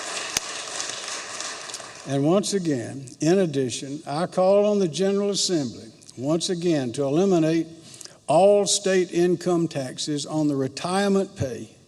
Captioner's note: applause